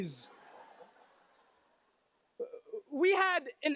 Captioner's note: laughter